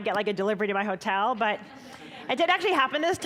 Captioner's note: audience chuckling